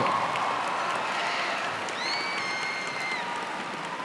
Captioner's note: cheers and applause